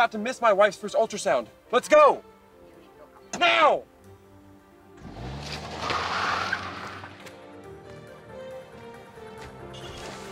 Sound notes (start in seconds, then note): 5.0 car revving; 6.7 upbeat music